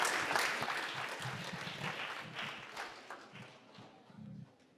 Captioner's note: applause, cheering; applause